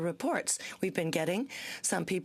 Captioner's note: speaking French